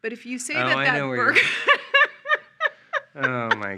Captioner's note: laughing